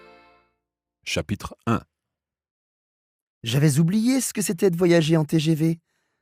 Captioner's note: podcast audio